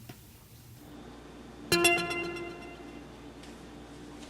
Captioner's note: text notification